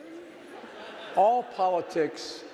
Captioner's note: audience laughing